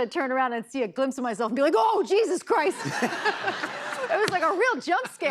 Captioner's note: laughter